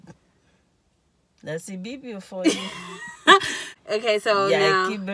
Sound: laughs

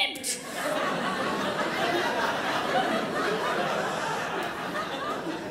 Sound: crowd laughs

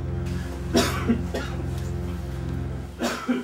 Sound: Dr. Richards coughs; ominous music

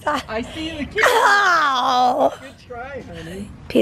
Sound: laughing

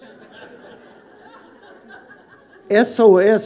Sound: congregation laughing

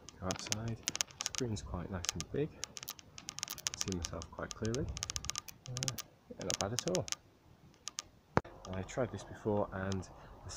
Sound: clicking sound over talking

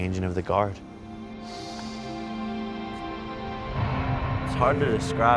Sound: exhales deeply

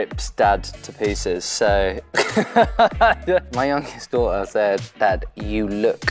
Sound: laughs

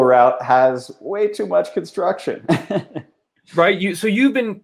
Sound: laughs

